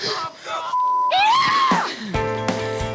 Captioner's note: beep; melancholy music